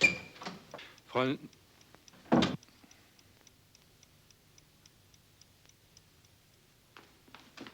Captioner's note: door clicking